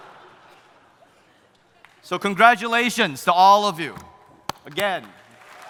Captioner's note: claps